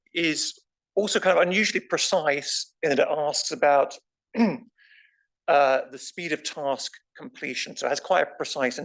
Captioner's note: cough